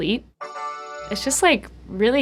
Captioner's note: computer chiming